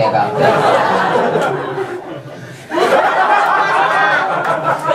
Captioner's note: audience laughs